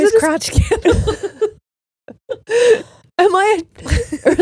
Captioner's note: all laughing